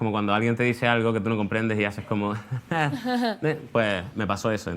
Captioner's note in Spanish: risa tímida